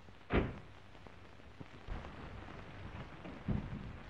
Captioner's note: door slams